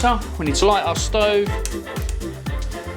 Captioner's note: click